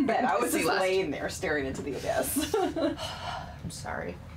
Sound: laughing

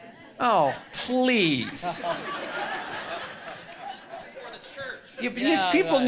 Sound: audience laughing loudly

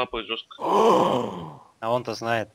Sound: gasps

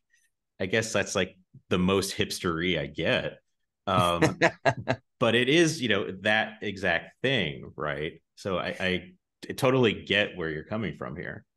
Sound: laughs

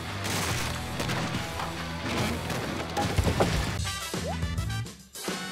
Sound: crashing; upbeat funky music

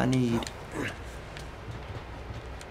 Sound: Joel grunts

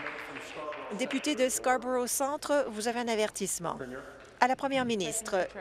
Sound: applause

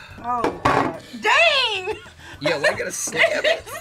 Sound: laughs

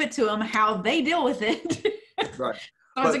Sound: laughs

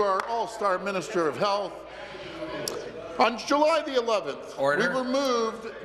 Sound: applause

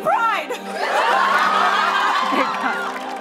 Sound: cheers and applause

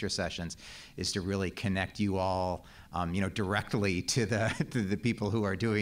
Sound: laugh

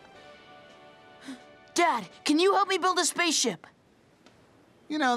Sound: gasps

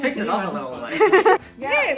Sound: fake ass laugh

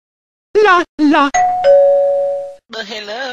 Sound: dingdong

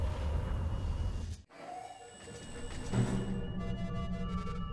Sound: alarm sounding

